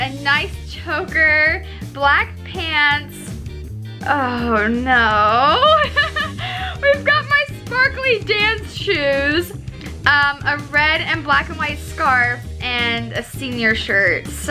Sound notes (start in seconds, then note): 5.4 laughs